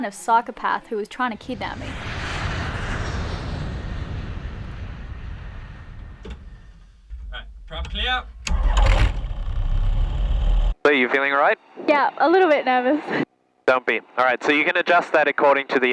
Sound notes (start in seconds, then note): 8.4 engine and propellor start